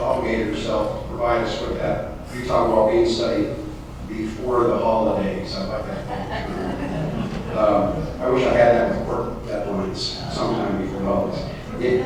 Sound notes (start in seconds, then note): 5.9 laughter